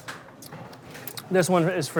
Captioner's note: lips smacking